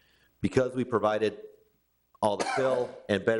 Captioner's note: councilor coughing